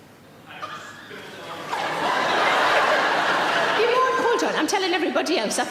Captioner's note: audience laughing